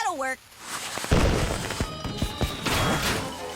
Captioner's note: fireworks sizzle, pop; flames whoosh